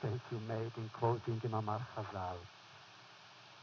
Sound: foreign language

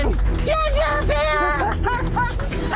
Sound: laughter

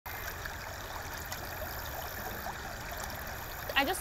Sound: water running

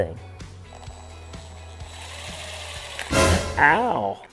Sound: drill whirring; dramatic music

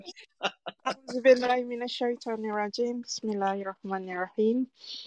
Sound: Arabic

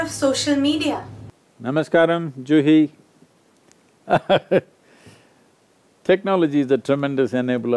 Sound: laughs

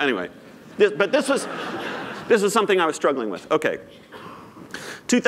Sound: laughter

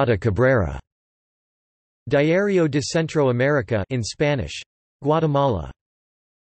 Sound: in Spanish

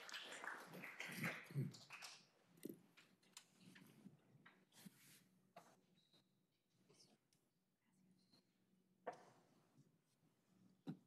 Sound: applause

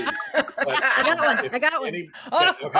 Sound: people laughing

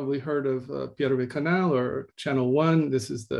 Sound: speaking in Russian

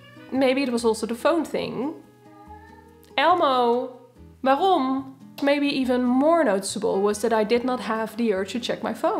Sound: cat meow

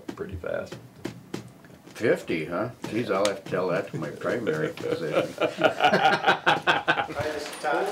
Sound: laughter

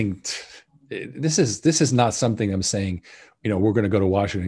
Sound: scoffs

